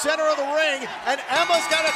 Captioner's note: bell ringing